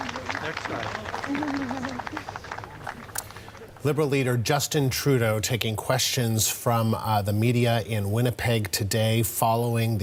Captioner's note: applause